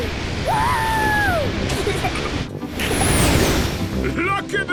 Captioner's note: rocket thrusting